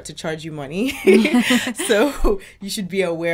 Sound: laughter

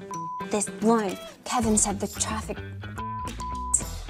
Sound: beep

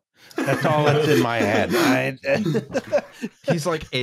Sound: laughter

